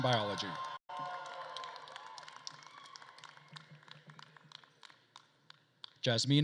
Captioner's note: attendees cheering and applauding